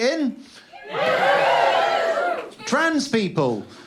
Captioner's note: cheer